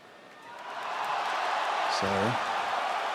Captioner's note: crowd cheers